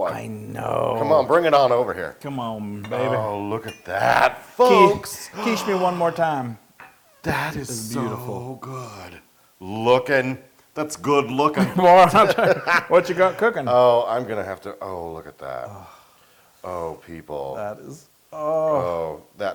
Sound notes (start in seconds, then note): 11.6 laugh